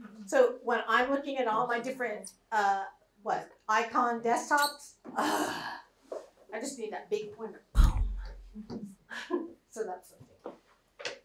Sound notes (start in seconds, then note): 5.8 groans